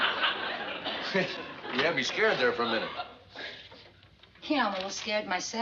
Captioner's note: chuckles